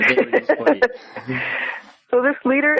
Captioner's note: laughs